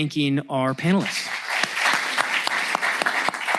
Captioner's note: applause